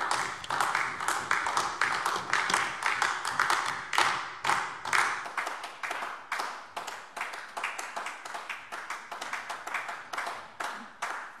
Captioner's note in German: Beifall AfD